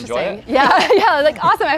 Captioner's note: laughs